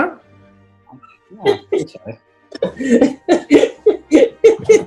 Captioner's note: giggling